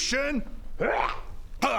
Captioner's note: hrrghah